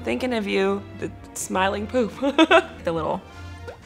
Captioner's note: laughs